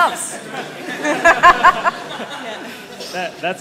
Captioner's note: laughter